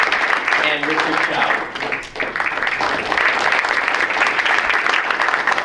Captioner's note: audience applauds; speaker drowned out by applause; audience applauds